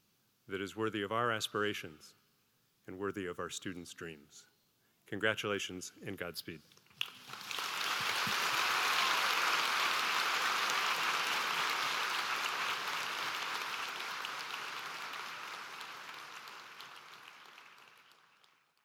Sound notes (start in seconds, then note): 6.9 applause